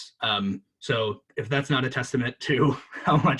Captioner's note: laughs